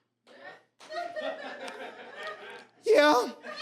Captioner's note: audience laughs